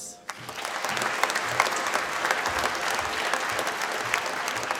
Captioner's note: applause